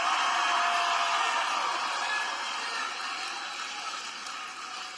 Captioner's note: applause